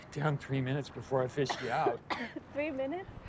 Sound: coughing

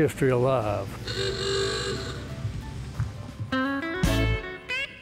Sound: horn honks; upbeat music

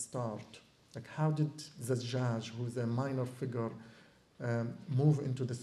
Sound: non-english

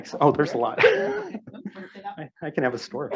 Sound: laughs

